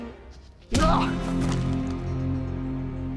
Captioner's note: punch, mr. gates groans